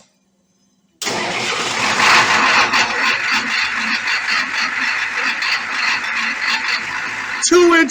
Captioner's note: engine starts & idles